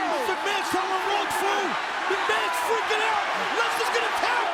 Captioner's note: audience cheering and clapping